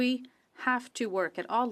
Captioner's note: speaking French